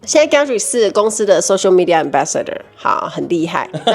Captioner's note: laughs